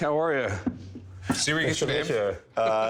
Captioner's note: laughs